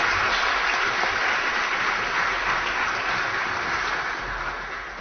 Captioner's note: applause